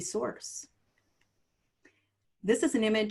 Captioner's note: silence